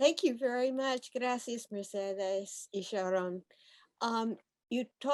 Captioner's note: speaking foreign language